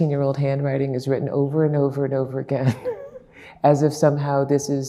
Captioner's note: laughing